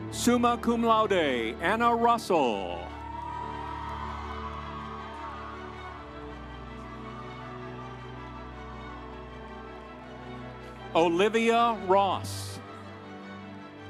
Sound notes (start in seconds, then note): 2.5 audience cheering; 4.7 instrumental music